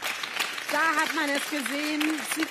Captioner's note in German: Applaus